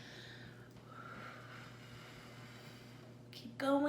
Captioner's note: breathes deeply